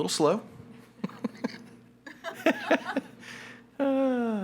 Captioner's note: all laughing